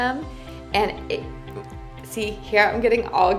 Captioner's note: stuttering